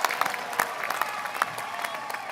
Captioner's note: applause